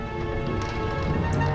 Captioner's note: doors closing